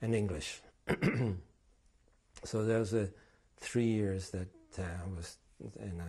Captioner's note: clears throat